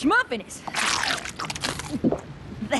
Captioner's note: slurp! Gulp!